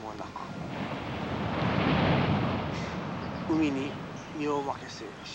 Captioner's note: speaking foreign language; waves crashing